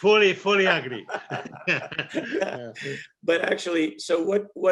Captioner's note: both laughs